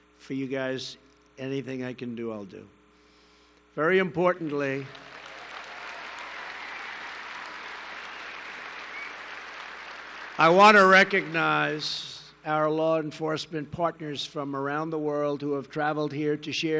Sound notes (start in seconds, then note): 4.3 applause